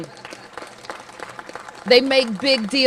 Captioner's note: applause